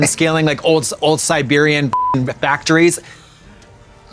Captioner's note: beep